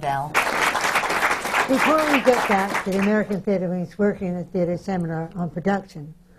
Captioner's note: applause